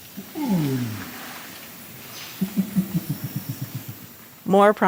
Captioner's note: orangutan softly grunts